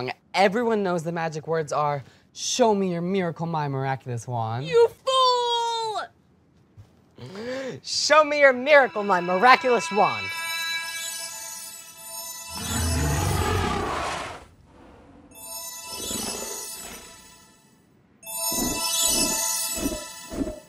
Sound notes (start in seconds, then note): 10.1 tinkling sound; 12.5 dinosaur roar; 15.3 tinkling sound; 18.5 flapping wings